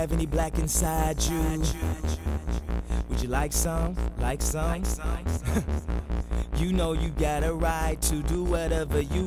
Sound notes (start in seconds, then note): 0.2 echoes; 5.3 laughs